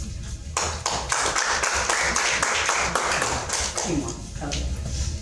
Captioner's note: audience clapping